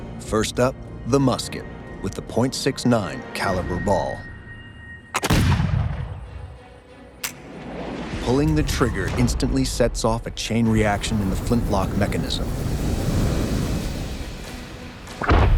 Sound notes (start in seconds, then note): 0.0 tense music; 5.2 musket blasts; 7.2 trigger clicks; 12.8 ignition whooshes; 15.3 ignition blasts